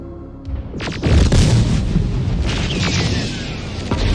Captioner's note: gunfire and explosions in background